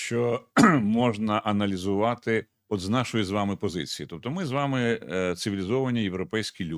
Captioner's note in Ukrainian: прочищення горла